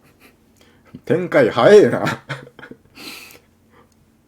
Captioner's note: laughter